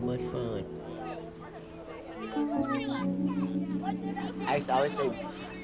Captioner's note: kids chattering